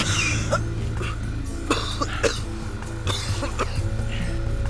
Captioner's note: coughing